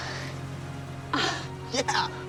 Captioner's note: moan